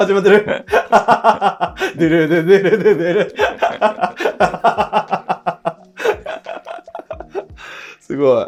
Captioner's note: laughing